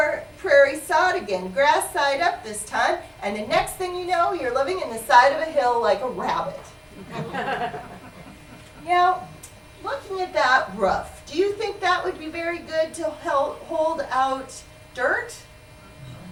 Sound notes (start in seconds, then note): 6.9 laughter